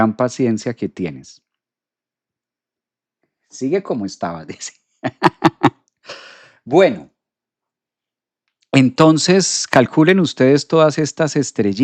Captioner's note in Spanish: risas